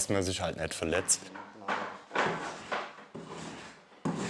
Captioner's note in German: Leises Klopfen im Hintergrund